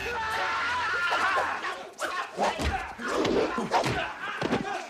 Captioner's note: shouting